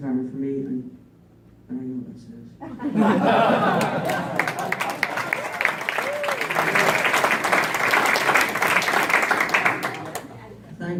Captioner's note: clapping and laughter